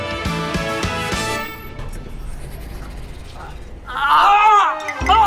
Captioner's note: slides Open